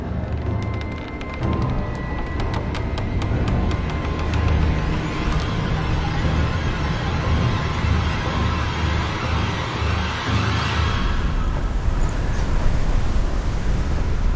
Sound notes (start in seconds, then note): 0.1 creaking wood; 5.7 dramatic music crescendos; 10.8 stormy sea